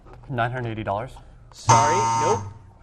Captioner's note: buzzer